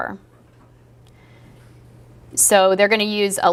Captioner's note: pause